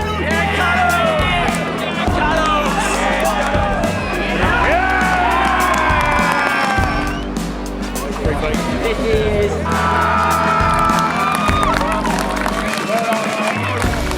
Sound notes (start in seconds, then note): 0.2 players yell; 4.6 crowd cheers; 10.6 siren sounds